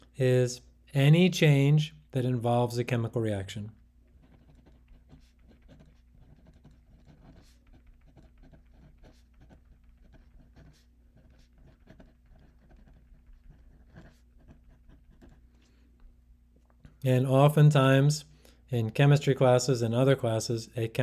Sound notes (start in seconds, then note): 7.3 pen rasping